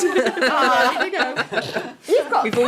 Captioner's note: laughing